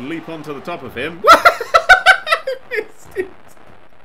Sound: loud laughter

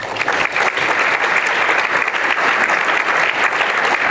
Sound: applause

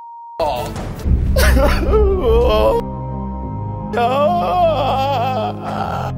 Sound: crying

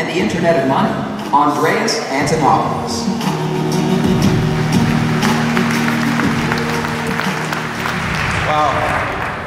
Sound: applause

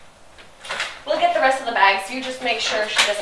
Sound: door knob squeaking

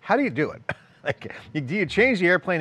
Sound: giggles

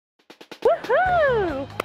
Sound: cheering

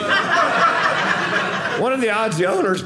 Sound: audience laughing

